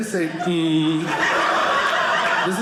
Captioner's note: audience laughing